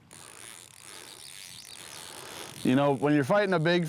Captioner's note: fishing rod line buzzes